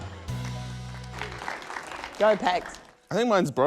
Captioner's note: applause